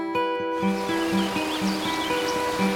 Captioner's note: birds singing